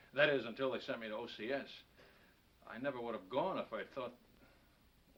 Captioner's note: none